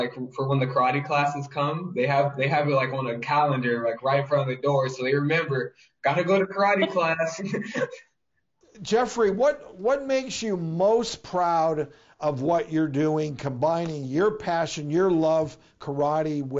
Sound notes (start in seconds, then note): 6.7 laughs